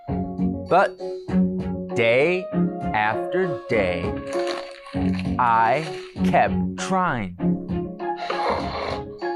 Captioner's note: snoring noise